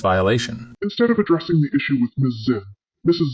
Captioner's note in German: verzerrt